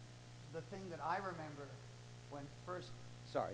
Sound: voiceover

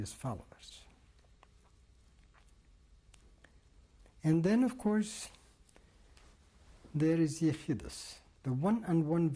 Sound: pauses for 3 seconds

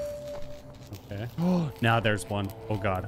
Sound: gasps

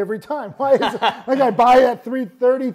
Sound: laughs

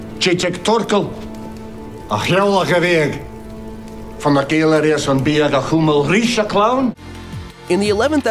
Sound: speaks in Gaelic

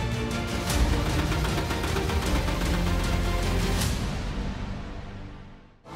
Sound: dramatic music; engine sputtering

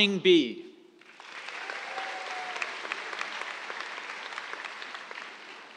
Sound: cheers, applause

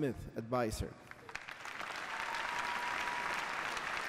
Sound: applause

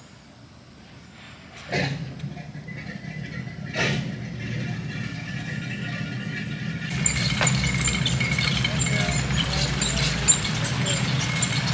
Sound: boat engine sounds

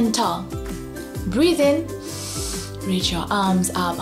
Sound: breathes in deeply

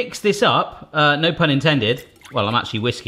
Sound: liquid sloshing

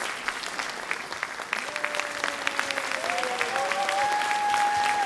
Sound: audience clapping

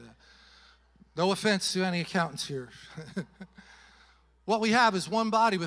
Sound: chuckles

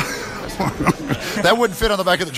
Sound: laughter

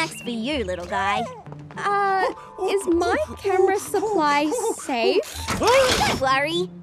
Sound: worried

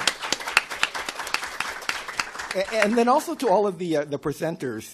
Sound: applause

